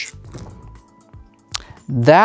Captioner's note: dice rattling; dice rolling